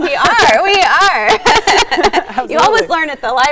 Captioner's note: laughs